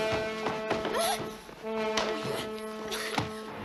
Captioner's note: gasps